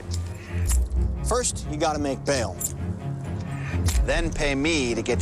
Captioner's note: keys jingling